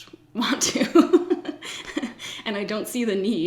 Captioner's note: laughs